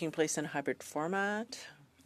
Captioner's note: speaking in French